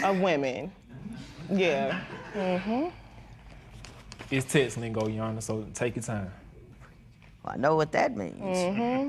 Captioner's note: laughter